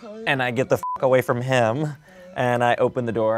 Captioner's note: beep